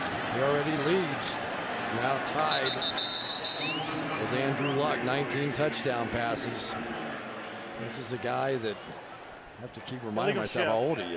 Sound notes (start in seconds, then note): 2.5 whistle blows